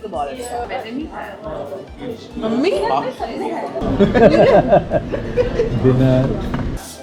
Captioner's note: laughs